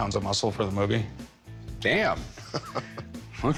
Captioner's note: chuckling